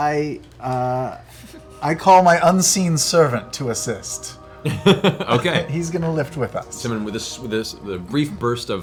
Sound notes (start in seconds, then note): 4.6 laughs